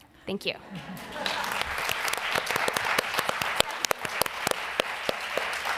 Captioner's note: applause